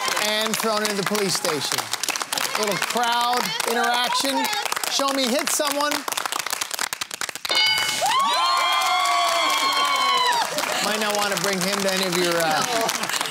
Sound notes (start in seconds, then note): 7.6 cheering and applause